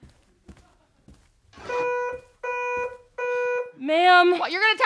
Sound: machine beeps

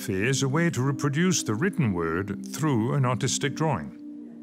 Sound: speaks French

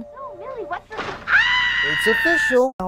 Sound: screaming

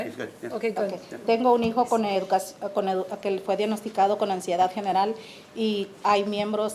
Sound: speaking in foreign language

